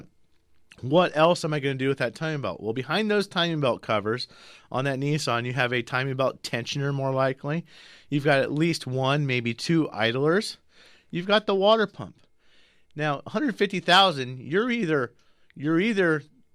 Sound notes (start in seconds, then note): none